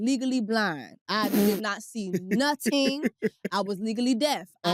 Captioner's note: laughs